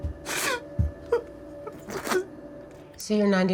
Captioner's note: crying